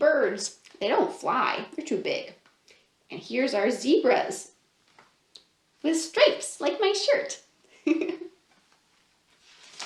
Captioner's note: laughs